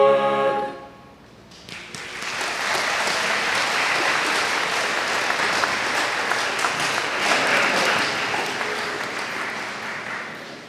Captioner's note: applause